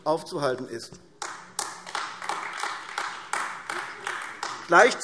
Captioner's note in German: Beifall AfD